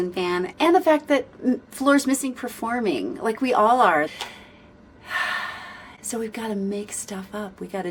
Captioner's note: sigh